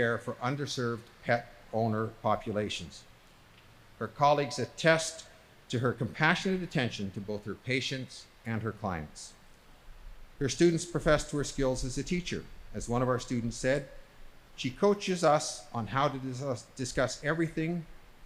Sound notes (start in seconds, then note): none